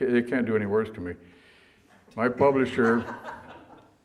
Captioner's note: audience laughter